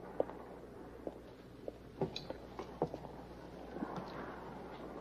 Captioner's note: footsteps approaching